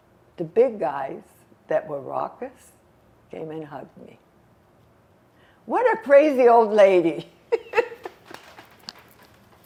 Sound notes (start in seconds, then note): 7.5 laughing